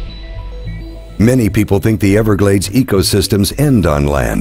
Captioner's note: voiceover